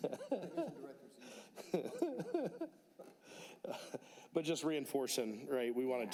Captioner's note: laughter